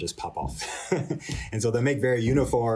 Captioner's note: laughter